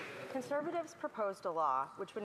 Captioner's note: some Applause